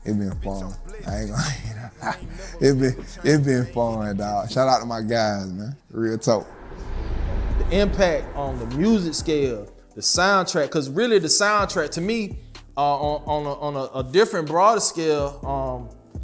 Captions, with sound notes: it's been fun. I ain't gon' lie. (laughs) It's been fun, dog. Shout out to my guys, man. Real talk. - The impact on the music scale, the soundtrack. 'Cause, really, the soundtrack to me, on a different broader scale,